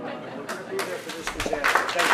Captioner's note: applause